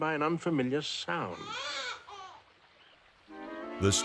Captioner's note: baby crying